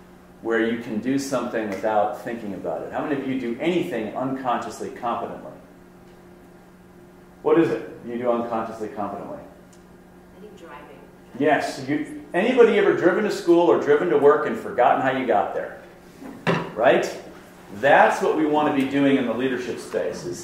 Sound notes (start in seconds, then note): 10.4 voiceover